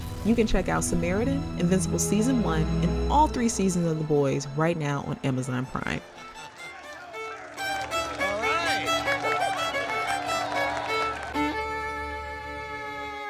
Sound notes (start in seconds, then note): 6.7 classical violin music; 9.8 crowd cheering